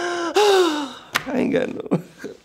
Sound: sighs dramatically

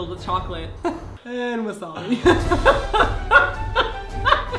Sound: laughs; more laughing

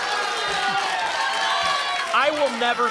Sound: applause and cheering cont

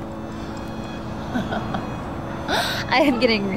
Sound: emma laughs

